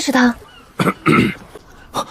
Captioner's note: cough, cough